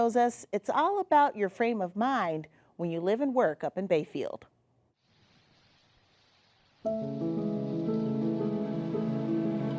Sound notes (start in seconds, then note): 5.1 water splashing; 6.8 cheerful music